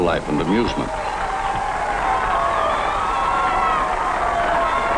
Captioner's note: crowd cheering